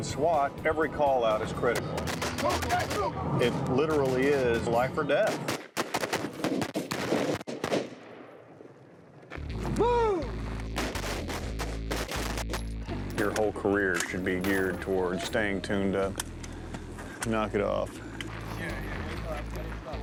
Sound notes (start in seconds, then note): 5.2 gunfire; 10.6 gunfire